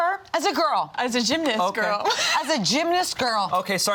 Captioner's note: laughs